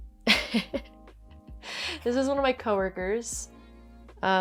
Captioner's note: laughs